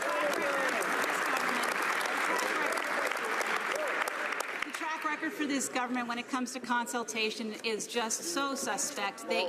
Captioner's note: some Applause